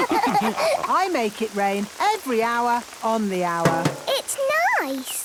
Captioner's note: all laughing; taps